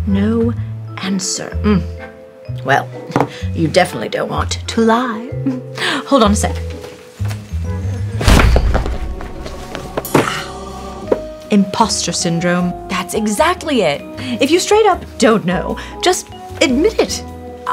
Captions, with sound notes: - "No answer." Mm. Well, you definitely don't want to lie. Hold on a sec. [book slams] [mystical music] "Imposter syndrome." - That's exactly it. - If you straight up don't know, just admit it.